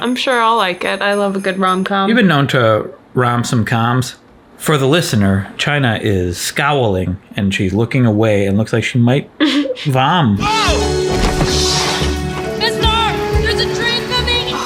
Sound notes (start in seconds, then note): 9.4 chuckles; 11.0 thuds